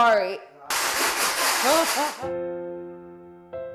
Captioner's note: machine thuds; gentle music